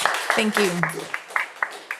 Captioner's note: audience applauding